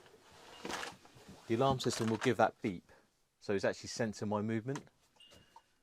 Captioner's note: beep